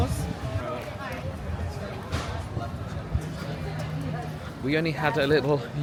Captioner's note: crowd chattering indistinctly